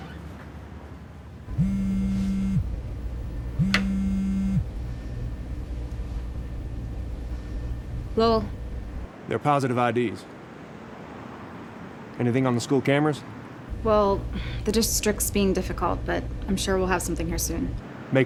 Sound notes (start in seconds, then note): 1.5 phone vibrating